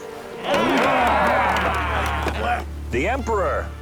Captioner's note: yells